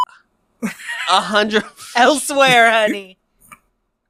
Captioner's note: laughs